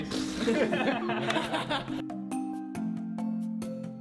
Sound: laughter

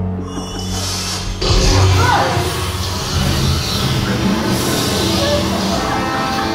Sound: laser cutting noises

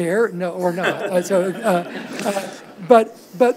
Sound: audience laughs

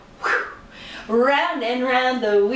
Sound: whew!

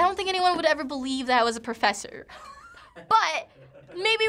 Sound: Finebros chuckles

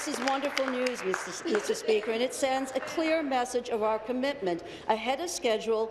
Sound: applause

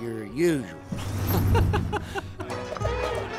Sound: Lightning laughing; upbeat music

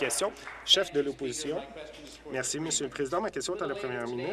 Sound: applause

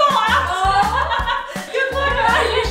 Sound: laughs

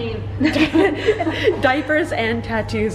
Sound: both laughing

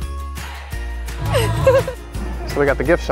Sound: laughs

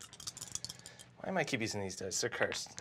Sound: dice rattle

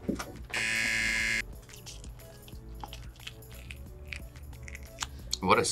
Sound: buzzer; meat tearing

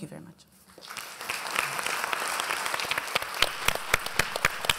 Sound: applause

